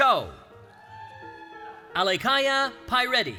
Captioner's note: cheering